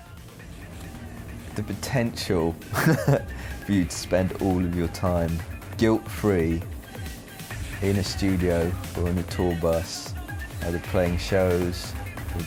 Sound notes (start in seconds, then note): 2.5 laughs